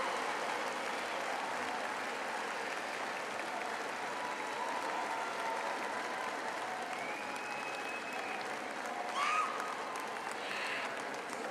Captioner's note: applause